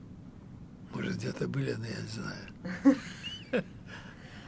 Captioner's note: laughing